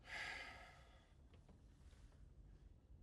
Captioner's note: sighs